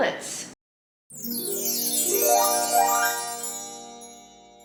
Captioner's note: chimes sound